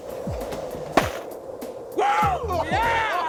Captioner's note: snowball thuds